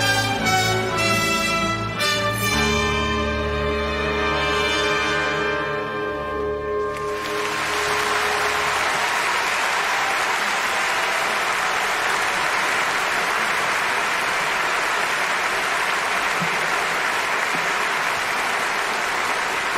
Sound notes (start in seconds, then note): 7.3 applause